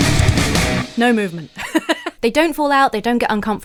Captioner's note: laughs